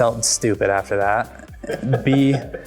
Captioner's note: laughing